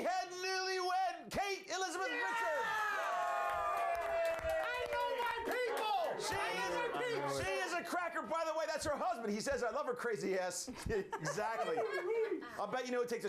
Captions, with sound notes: - LET'S MEET OUR CRAZY HEAD NEWLYWED, KATE ELIZABETH PRICHARD. [All cheer] - I KNOW MY PEOPLE! [All cheer] - SHE IS A CRACKER! BY THE WAY THAT'S HER HUSBAND. HE SAYS "I LOVE HER CRAZY ASS." EXACTLY.